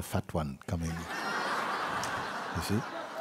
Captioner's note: laughter